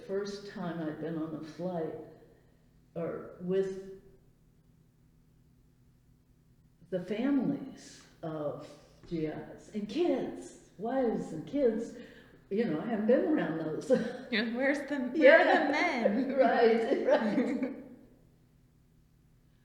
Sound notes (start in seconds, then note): 13.8 laughs